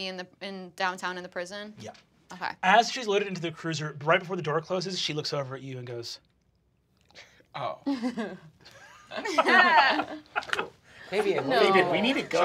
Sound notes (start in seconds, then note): 7.8 group laughing